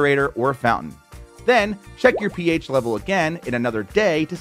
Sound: graphics popping

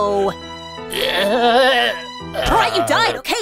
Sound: horse dying sounds

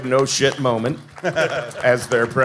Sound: panel laughing

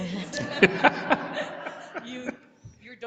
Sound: laughing

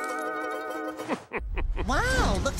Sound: laughing

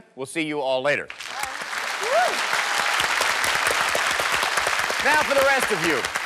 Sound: applause

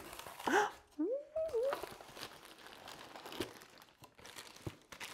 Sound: cardboard box crunching; speaker exclaiming

